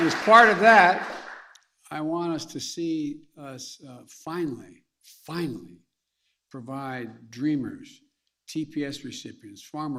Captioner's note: applause